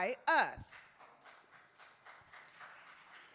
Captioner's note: applause